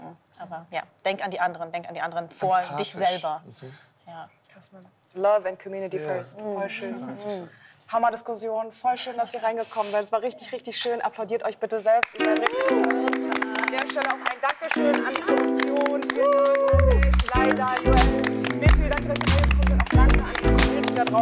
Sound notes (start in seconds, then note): 13.5 applause